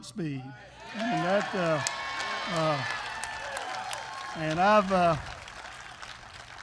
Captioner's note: applause